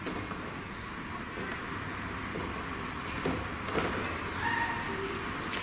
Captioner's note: tapping and squeaking